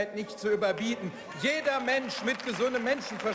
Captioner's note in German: Zwischenruf und Beifall